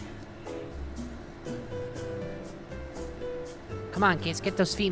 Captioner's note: whispering; continues humming